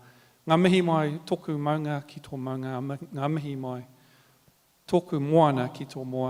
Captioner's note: continues to speak native language